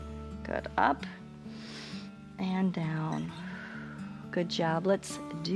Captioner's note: exhales